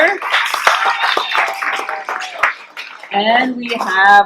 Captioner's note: clapping and cheering